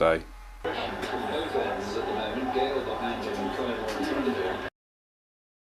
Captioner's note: voices over radio